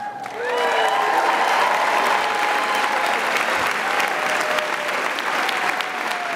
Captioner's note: audience cheering and applauding